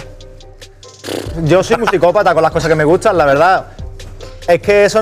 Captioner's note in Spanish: resopla